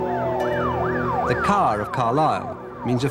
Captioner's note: sirens wailing